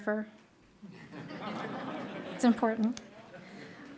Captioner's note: laughing